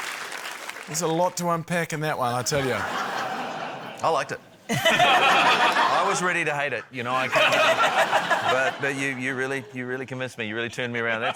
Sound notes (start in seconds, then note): 4.6 laughter; 10.9 laughter